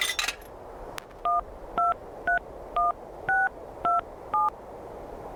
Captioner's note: phone keys dialing